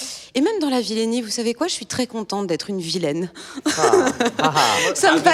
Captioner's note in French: rires